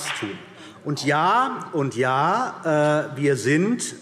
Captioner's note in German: Beifall CDU und BÜNDNIS 90/DIE GRÜNEN